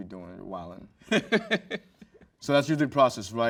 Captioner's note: host chuckles